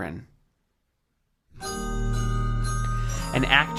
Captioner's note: bell chiming